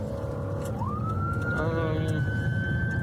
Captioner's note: siren wailing